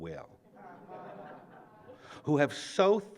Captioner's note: laughter